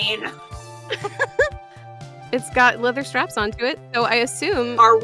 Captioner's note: chuckles